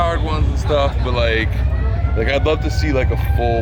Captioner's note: siren blaring